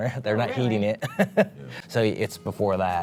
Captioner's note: laughter